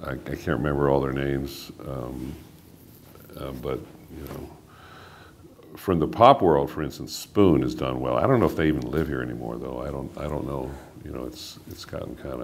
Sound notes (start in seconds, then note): none